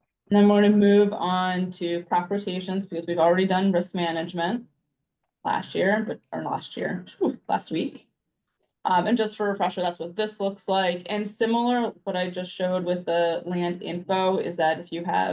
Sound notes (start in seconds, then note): 7.4 laughs